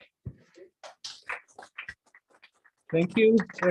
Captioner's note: applause